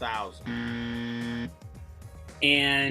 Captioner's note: buzzer